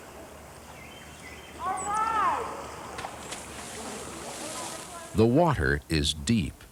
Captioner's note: splash